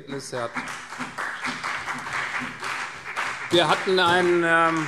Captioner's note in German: Beifall CDU, BÜNDNIS 90/DIE GRÜNEN und SPD